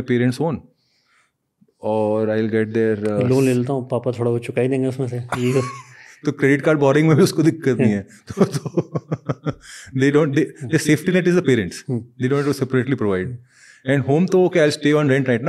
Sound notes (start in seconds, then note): 4.2 speaks in Hindi